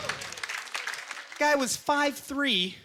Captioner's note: scattered applause